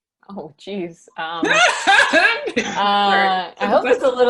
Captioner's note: laughs